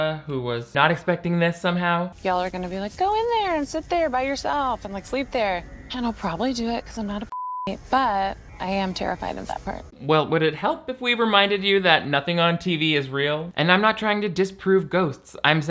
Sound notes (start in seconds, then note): 7.2 beep